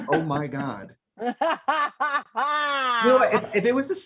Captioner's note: Michelle laughs